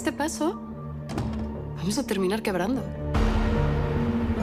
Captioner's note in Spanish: Sonido al cerrar la puerta